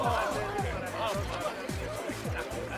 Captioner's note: crowd acclaims